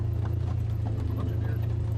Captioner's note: engine humming